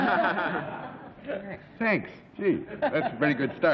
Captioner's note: laughs